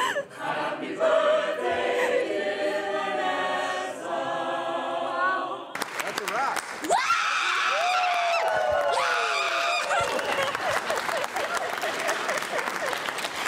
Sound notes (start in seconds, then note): 5.7 people clapping; 6.8 people screaming; 7.6 people clapping; 9.2 people laughing